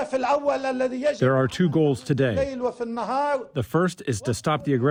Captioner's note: through translator